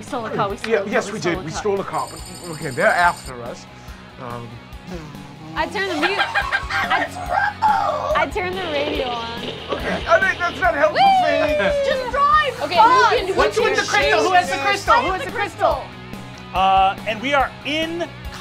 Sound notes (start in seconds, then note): 5.4 cackles; 9.1 static crackles